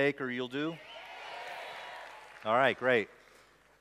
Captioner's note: applause